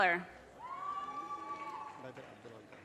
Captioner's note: audience cheers and applause